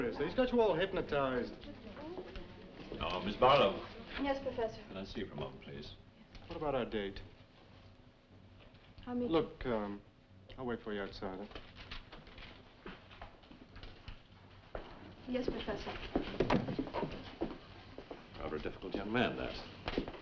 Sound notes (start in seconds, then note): none